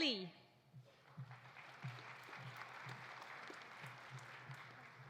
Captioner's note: audience applauding